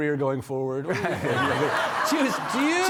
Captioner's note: audience laughing